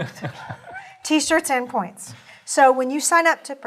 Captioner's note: laugh